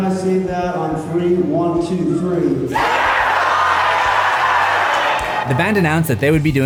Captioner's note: crowd